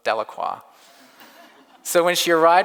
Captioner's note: audience laughs